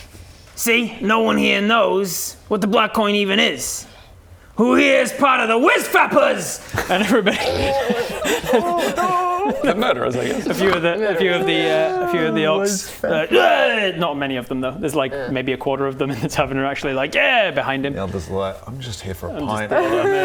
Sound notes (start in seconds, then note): 7.2 more snorting; 10.9 snort